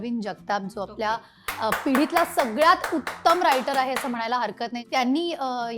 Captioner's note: claps